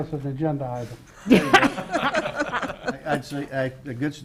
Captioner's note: all laugh